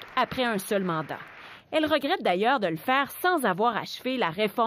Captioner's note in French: applaudissements